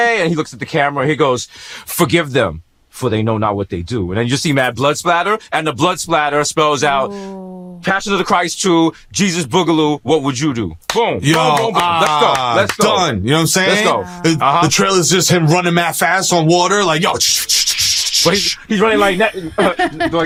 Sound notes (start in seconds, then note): 0.0 gospel singing voice; 17.4 swishing sounds